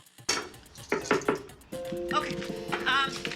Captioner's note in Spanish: Toques en la puerta